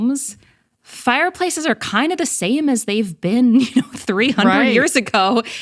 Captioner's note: laughs